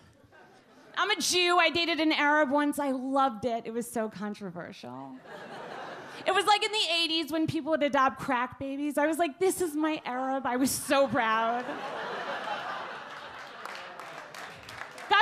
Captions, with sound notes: I'm a Jew, I dated an Arab once. I loved it. It was so controversial. (audience laugh) It was like in the '80s when people would adopt crack babies. I was like this is my Arab, I was so proud. (audience clap)